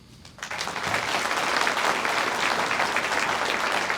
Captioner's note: audience applauds